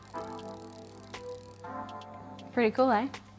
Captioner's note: gentle clicking